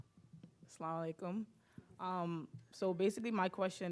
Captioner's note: speaking in foreign language